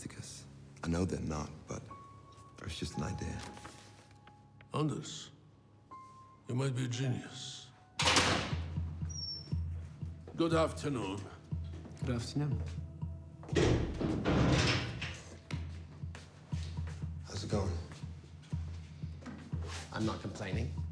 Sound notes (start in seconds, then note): 8.0 door creaks; 13.0 suspenseful music; 13.5 door closes and locks